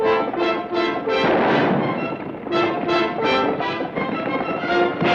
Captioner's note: gun fires